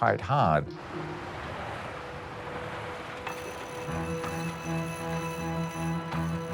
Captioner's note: reel clicking